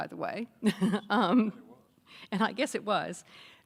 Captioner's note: chuckling